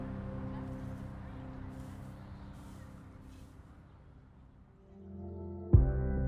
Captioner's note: broom sweeping; somber music begins